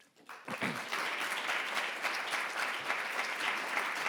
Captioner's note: audience applause